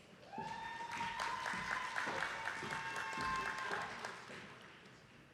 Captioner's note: attendees clapping